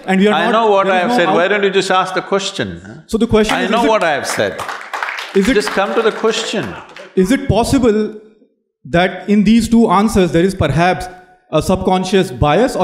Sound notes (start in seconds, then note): 3.5 applause